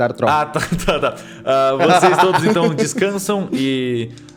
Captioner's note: laughs